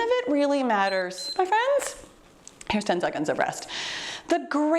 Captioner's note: timer beeps